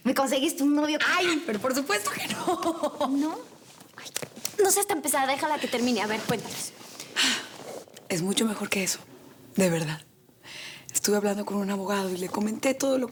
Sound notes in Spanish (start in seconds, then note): 2.2 risas